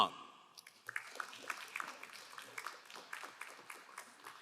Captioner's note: crowd applauding